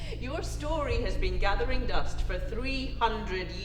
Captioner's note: laughing